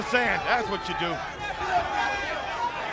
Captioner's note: crowd chatter